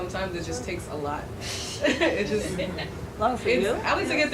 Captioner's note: audience laughing